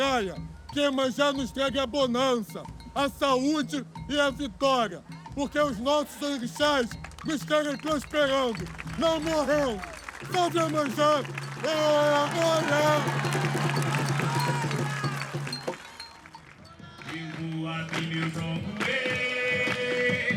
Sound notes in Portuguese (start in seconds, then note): 13.0 Todos aplaudindo